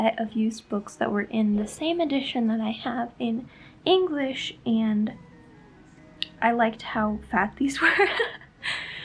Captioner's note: laughs